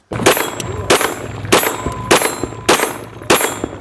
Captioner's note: gun firing